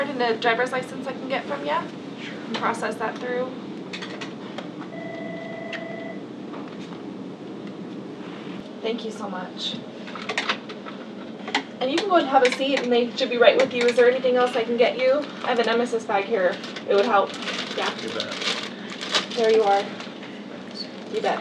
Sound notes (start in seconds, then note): 4.9 phone rings